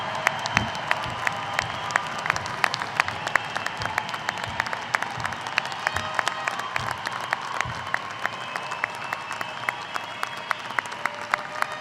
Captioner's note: cheers and applause